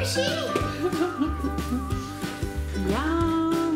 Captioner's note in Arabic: يضحك